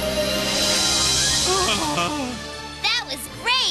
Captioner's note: groans